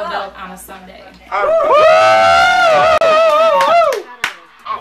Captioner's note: cheering